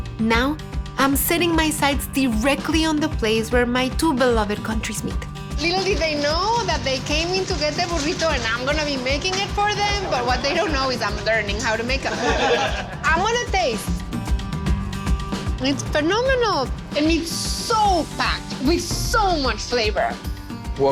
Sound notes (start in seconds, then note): 11.8 men laugh